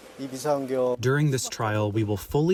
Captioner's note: through translator